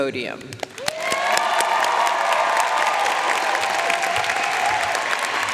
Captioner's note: audience cheering and applauding